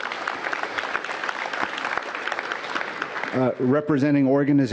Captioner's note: applause